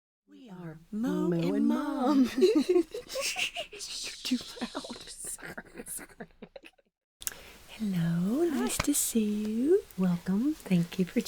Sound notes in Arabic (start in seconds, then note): 1.9 تضحك; 5.8 يستمر الضحك